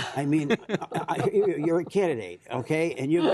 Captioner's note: laughter